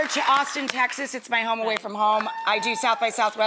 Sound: audience member cheering

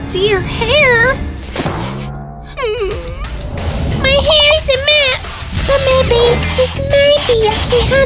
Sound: sniffles

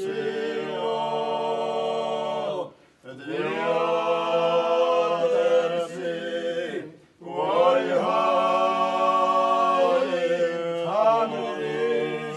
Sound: chant

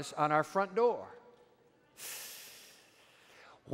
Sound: breathes sharply

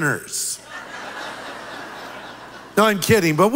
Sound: audience laughing

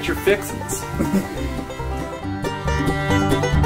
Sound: giggles

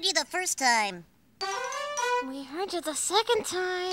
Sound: little cat "c"'s horn blows; horn blows

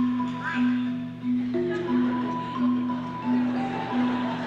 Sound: audience applauding

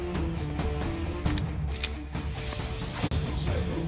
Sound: gun loading

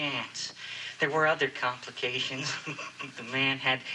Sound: giggles

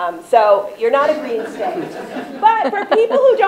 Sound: audience laughing

